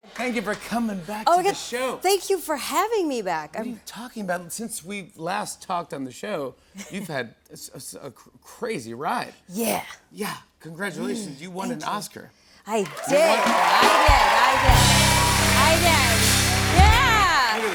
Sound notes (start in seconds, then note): 15.3 cheers and applause